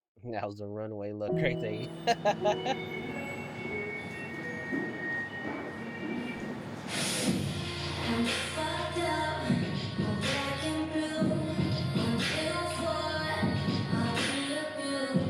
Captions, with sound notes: Now's the runway look right there. [ Laughs ] [ Whistling ] [ Whistling continues ] I'm fucked up, I'm black and blue I'm filled for life, I'm in the blue